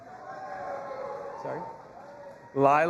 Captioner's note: audience applauding and cheering